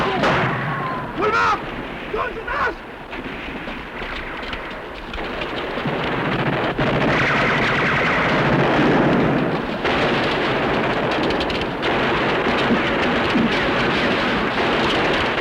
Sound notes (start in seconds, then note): 1.1 speaking filipino